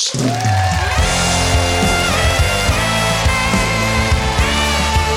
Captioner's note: audience cheers and claps